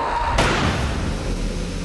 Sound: loud thud

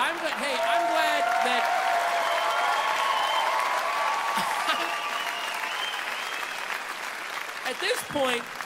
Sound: applause

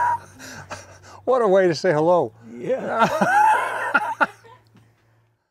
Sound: laughing

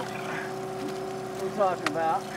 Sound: fish splashing

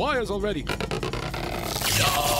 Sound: wires creaking

